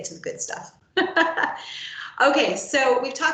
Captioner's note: laughs